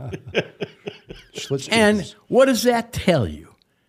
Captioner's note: laughing